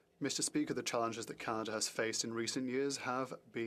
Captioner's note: speaking French